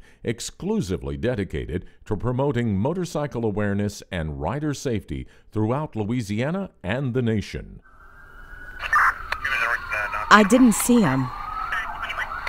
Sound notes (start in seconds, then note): 7.8 sirens blaring